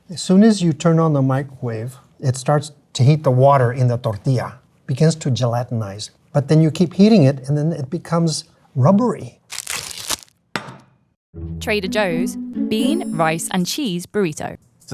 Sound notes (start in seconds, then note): 9.5 burrito thumping; 9.5 wrapper ripping